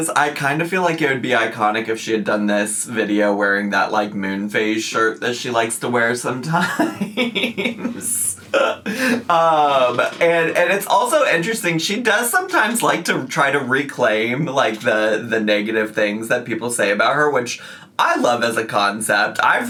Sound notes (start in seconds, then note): 6.6 laughs